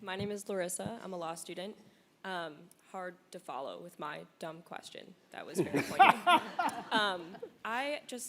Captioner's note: audience laughter